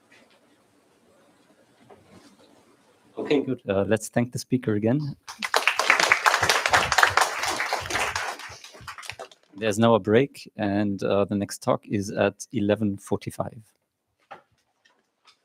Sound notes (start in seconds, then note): 5.2 applause